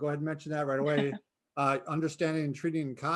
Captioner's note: laughing